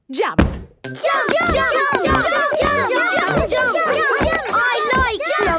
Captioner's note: all shouting "Jump! Jump!"